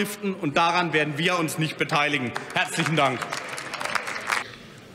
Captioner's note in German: Lachen bei Abgeordneten der AfD